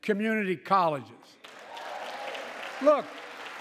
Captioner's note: applause